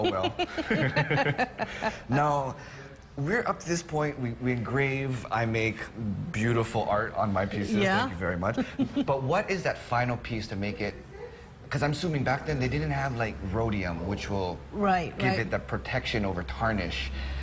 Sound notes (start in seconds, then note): 5.6 laughter